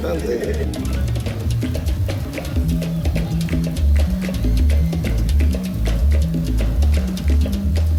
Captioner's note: rhythmic clapping